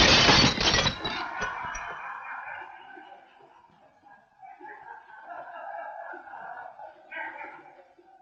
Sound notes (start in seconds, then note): 0.0 glass shattering; 0.0 workers laughing